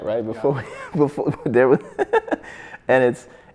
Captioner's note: laughs